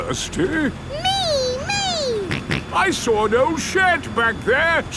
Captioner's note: snorts